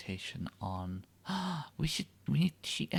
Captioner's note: gasp